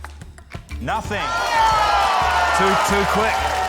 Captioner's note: applause